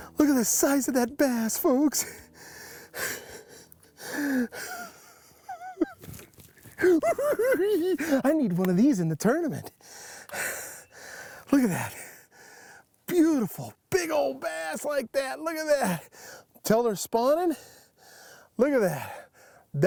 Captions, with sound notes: Look at the size of that bass, folks! [cackling] I need one of these in the tournament! Look at that. Beautiful, big ol' bass like that! Look at that! 'Can tell they're spawning. Look at that.